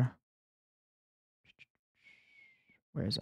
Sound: whistling

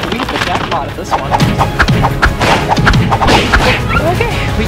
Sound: cartoon swiping

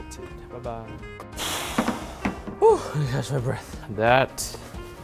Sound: huffs

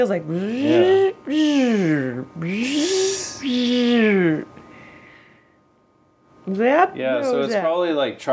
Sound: making electronic noises

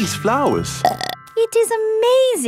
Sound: burps

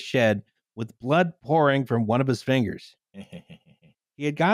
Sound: snickers villainously

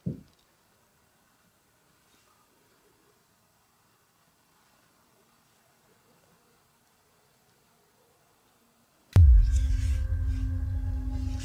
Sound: silence

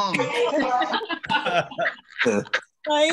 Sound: laughter

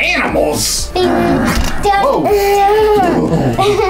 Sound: dad growls; laughs

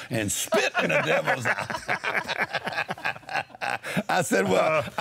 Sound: laughs

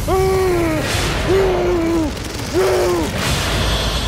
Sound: dramatic music; man yelling

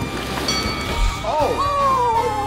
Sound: bell dings

